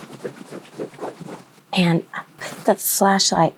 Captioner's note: fabric whirring